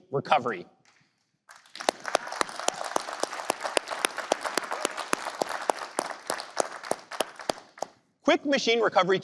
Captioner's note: applause